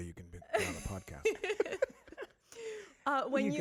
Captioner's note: all laughing